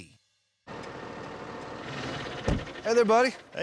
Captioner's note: tractor engine